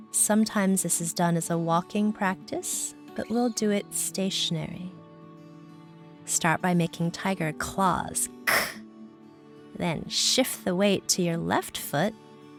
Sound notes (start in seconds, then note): 8.4 hisses